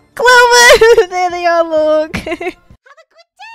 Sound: laughs; laughs

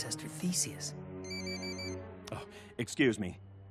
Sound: phone ringing

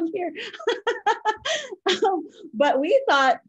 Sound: laughs

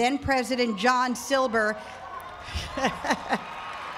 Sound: cheering

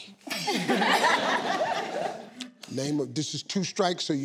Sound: laughing

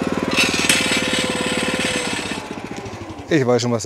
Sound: motor off

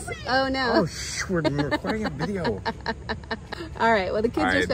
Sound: laughs

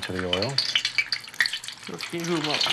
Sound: oil crackling

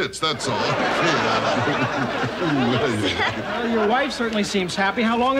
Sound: laughing

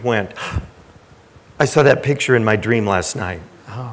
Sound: gasps

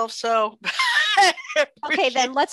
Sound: laughs

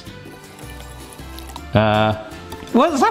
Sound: whisk whisking

